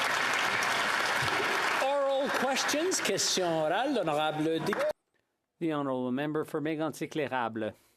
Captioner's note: applause